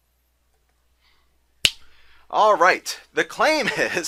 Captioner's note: finger snapping